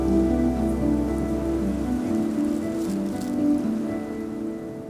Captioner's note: gentle breeze, birds